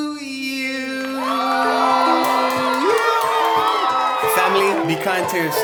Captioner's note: applauding